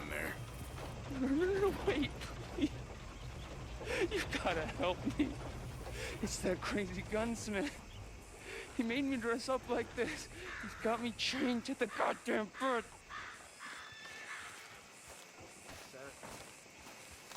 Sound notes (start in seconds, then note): 3.8 sobs; 8.7 sobs